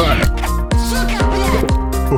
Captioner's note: russian swearing